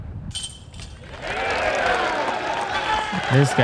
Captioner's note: cheering